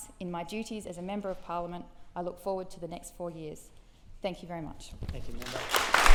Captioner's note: applause